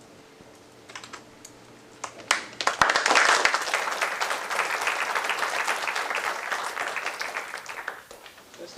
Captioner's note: applause